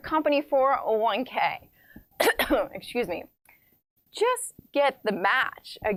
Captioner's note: coughing